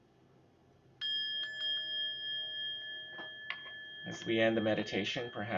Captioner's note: bell chiming